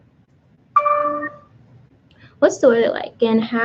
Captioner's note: computer dings